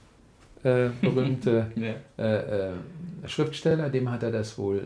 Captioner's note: laughs